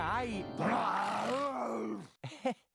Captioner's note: both growling; laughing nervously